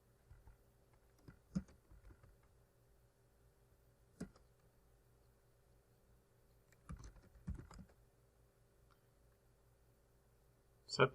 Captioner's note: typing